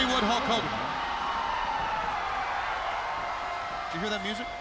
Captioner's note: crowd cheering